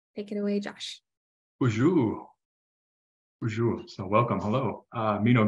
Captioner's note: speaking in an Indigenous language